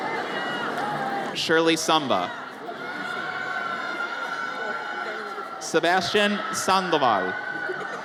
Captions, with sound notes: Shirley Sumba. (audience cheers) Sebastian Sandoval.